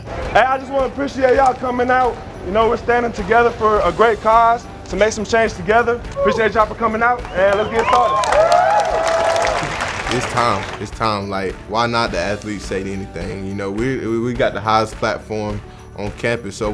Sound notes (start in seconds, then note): 8.4 crowd cheering